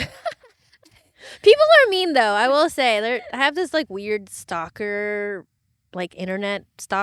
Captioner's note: laughing